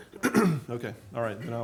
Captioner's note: clears throat